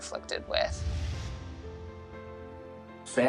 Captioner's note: swoosh